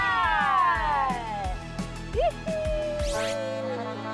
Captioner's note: applause